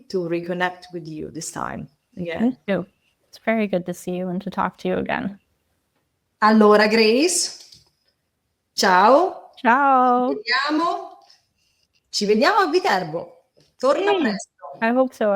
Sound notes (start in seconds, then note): 13.9 speaking Italian